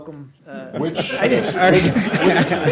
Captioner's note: laughter